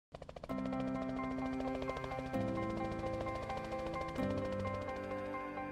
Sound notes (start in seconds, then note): 0.6 cheerful music; 2.0 helicopter whirring